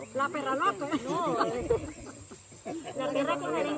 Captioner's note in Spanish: risas